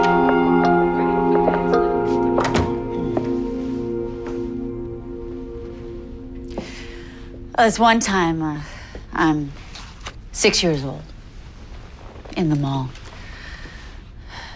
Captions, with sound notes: [door opens] [door closes] This one time, uh.. ...I'm six years old.. ...in the mall.